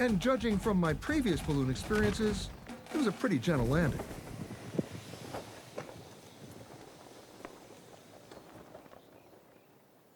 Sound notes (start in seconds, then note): 2.6 balloon thuds to the ground